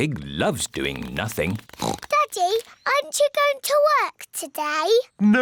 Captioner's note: oinks